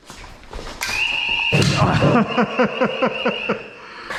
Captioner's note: end of round alarm